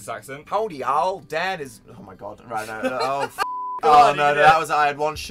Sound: in a terrible texan accent; giggling

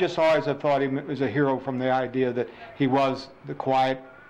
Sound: laughing

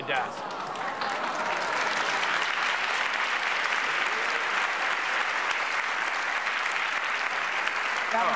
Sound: applause

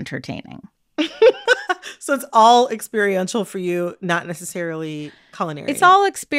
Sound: laughter

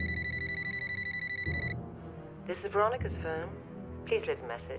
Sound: phone rings

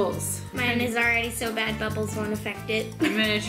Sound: laughs

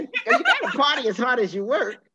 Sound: all laughing

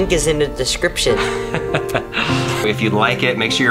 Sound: laughing

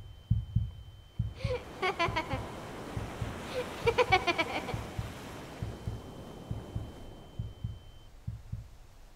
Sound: child laughing

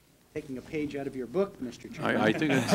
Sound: laughter

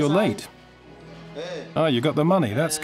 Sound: speaking in foreign language

